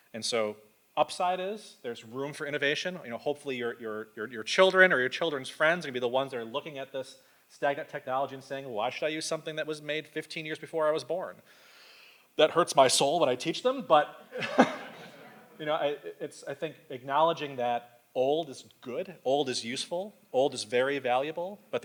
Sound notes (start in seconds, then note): 14.3 laughs; 14.3 audience laughs